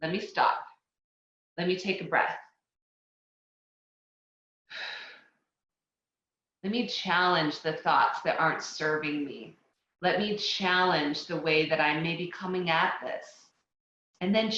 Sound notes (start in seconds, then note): 4.7 exhales loudly